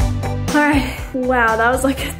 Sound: sighs

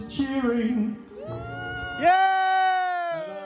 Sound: cheers

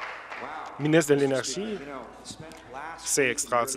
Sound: applause

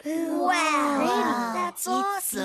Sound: admiring

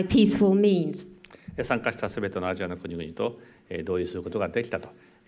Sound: speaking japanese

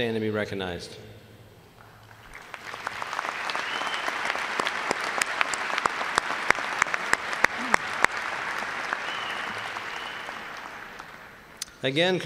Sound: applause

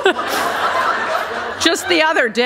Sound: laughter

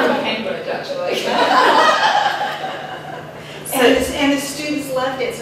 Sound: laughter

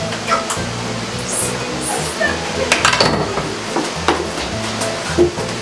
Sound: laughter from inside closet

